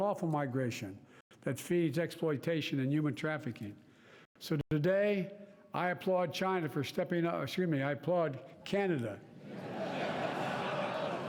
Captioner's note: applause